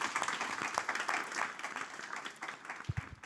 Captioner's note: audience applauding